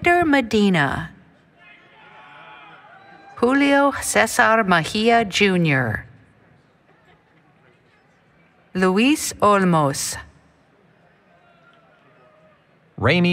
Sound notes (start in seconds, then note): 1.6 cheering